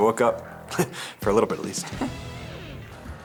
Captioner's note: chuckles